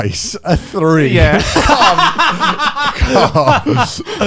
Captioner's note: laughs